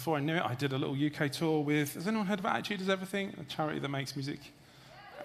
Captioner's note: audience cheers